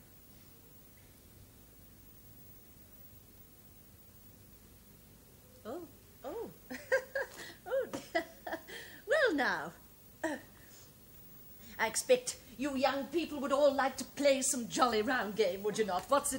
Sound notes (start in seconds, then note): 6.6 chuckles